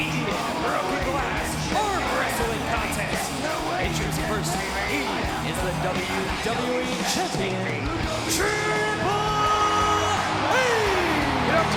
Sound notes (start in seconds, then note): 3.9 speaks faintly; 10.6 audience cheers